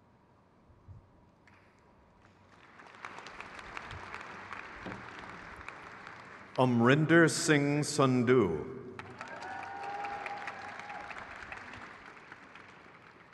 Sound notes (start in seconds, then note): 8.9 crowd claps